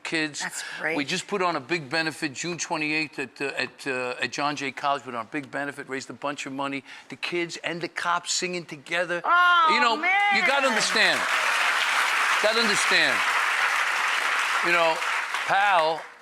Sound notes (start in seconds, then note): 10.3 audience applauds